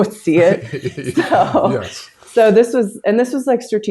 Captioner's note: laughs